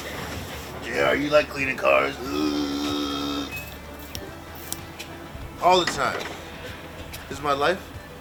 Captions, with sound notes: Yeah. You like cleaning cars. (person groaning) All the time. This is my life.